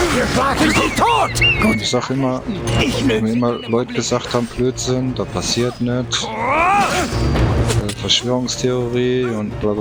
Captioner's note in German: schreien